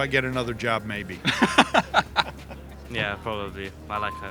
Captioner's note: both laugh